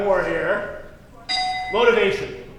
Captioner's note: dinging